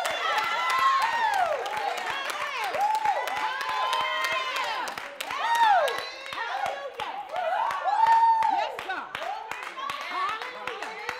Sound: applause

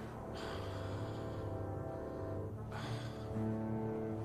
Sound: panting

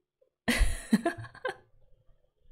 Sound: laughs

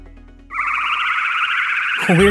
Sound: spaceship flying sounds

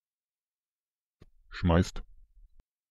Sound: fast Pronunciation

